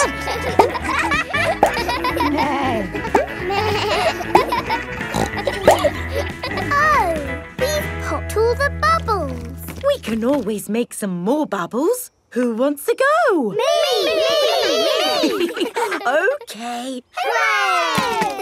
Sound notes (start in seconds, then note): 0.2 barks; 2.6 bleats; 2.6 neighs; 5.6 snorts; 14.5 chuckles